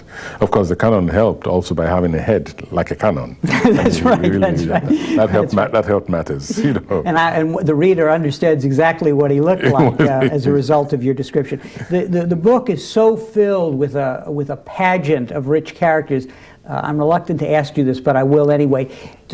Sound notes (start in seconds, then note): 3.4 laughter; 9.6 laughter